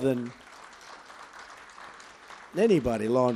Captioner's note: applause